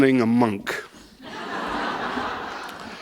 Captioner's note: laughter